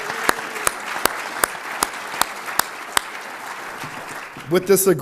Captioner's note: applause